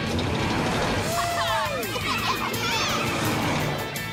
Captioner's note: cheering